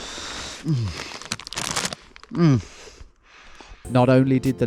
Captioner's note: grunting